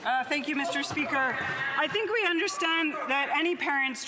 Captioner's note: some Applause